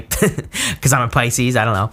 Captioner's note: speaker laughing